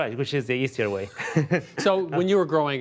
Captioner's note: laughs